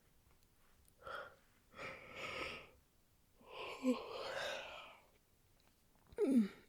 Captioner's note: big yawn